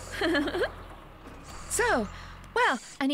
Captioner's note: Wendy Laughing